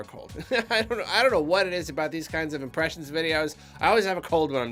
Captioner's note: laughter